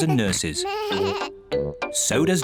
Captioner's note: both laughing; bleats